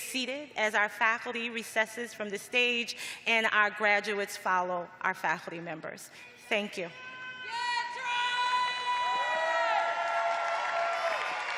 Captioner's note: cheering